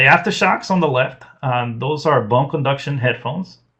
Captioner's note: laughs